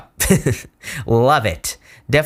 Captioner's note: chuckles